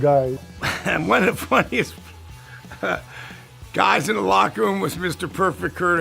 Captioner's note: laugh